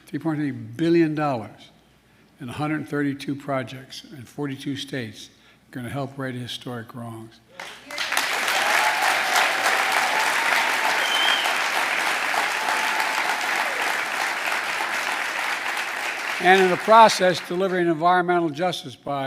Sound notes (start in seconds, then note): 9.2 applause